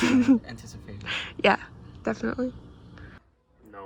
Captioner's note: chuckles